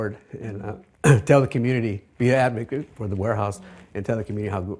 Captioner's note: coughs